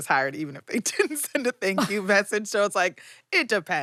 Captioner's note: laughs